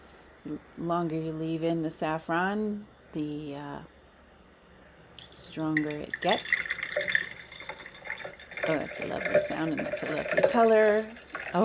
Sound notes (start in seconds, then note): 6.5 trickle-pouring sounds